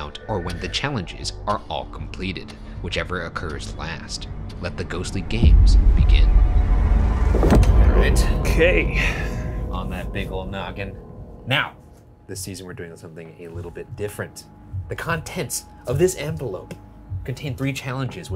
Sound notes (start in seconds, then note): 6.8 thunder clapping; 7.3 ominous music continues